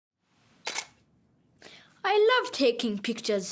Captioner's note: camera shutter snaps